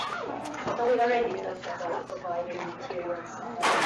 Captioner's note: indistinct chattering